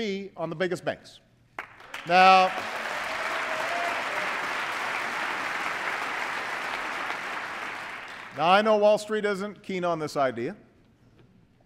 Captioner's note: applause